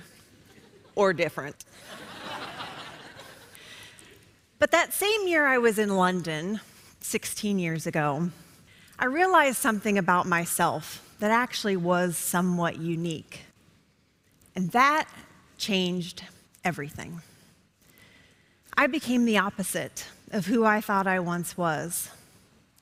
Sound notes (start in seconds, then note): 1.7 laughter